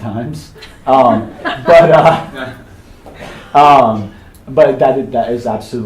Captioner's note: attendees chuckling